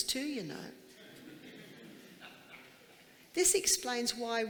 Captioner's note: audience chuckling